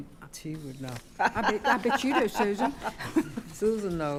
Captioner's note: laughing